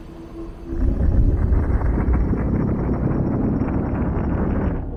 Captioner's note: loud rumbling